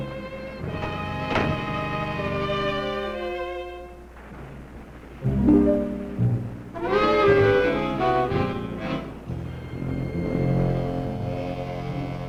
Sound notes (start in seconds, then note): 4.2 waves crashing; 4.9 dramatic music; 9.4 tense music